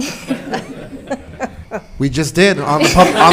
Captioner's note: all laughing